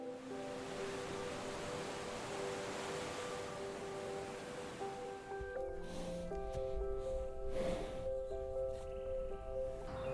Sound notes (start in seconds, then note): 0.0 waves crashing; 6.1 horse exhaling